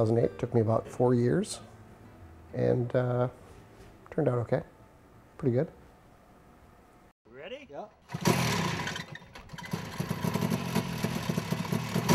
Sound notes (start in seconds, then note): 7.1 voiceover; 8.1 motor sputtering